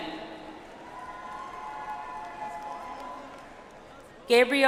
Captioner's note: audience applauds